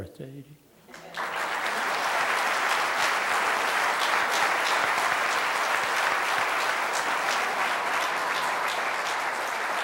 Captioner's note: applause